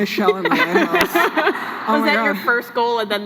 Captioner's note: laughs